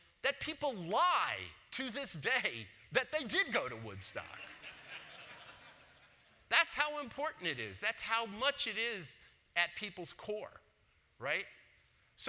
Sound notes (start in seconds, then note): 4.2 audience laughs